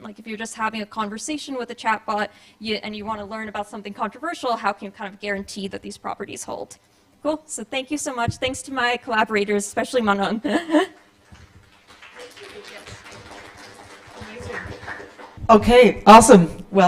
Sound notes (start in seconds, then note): 11.2 applause